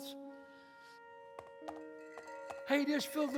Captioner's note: horse gaits